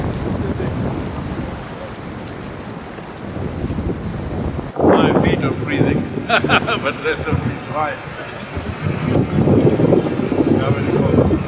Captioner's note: laughs